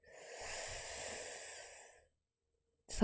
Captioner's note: sharp inhales